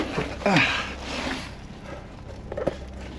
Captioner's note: grunting